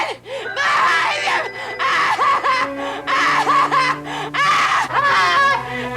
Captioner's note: Betty wailing hysterically